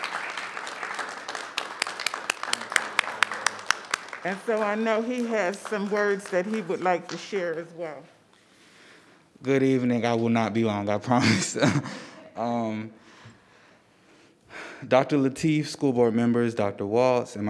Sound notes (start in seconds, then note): 11.2 chuckling